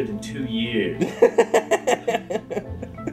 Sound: laughs

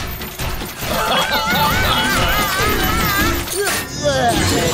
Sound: screaming, laughing

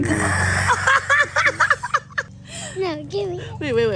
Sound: laughing

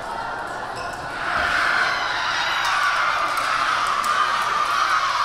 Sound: team cheering

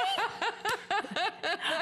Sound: laughter

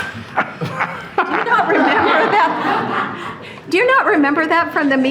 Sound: board members laughing

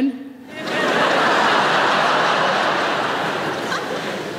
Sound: audience laughing

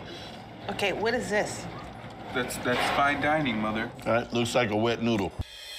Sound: none

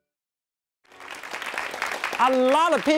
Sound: audience claps

